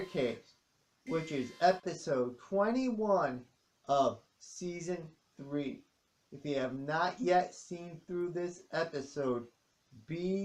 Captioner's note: alarm stops